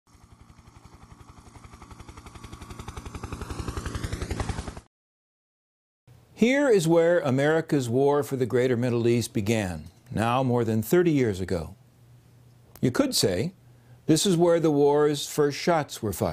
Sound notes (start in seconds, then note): 0.0 helicopter in flight